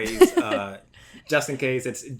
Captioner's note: laughs